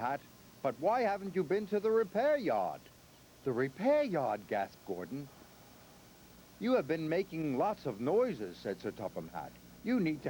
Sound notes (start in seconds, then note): none